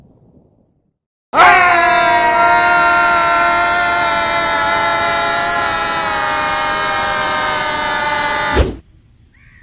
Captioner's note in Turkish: Bağırma sesleri